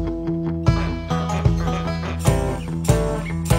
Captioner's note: geese honk